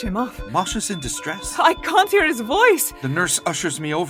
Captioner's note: beeping and medical alarms